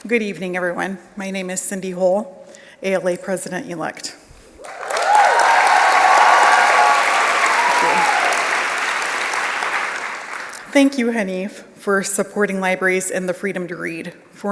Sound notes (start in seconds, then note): 6.6 applause; 6.6 cheers